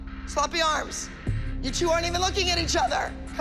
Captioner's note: none